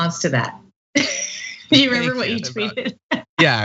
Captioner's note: laugh